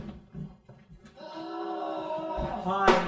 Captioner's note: groans